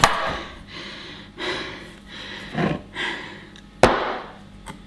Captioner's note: breathing heavily; pieces banging on surface